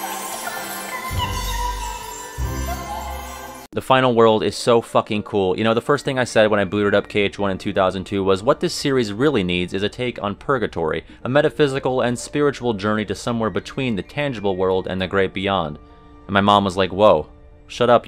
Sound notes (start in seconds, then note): 3.0 General Chirithy noises